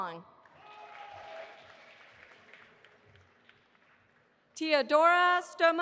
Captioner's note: audience applauding